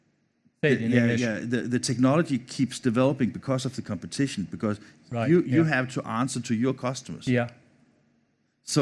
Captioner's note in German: fremdsprache 00:31:04